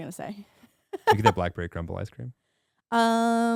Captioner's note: laughing